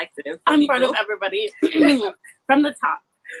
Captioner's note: clears throat